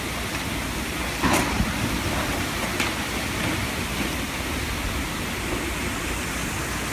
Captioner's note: water roaring; ground cracks and crashes